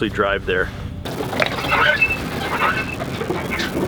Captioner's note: trailer creaks sharply; digital static sound